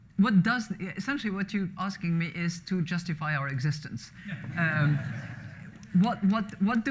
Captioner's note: laughter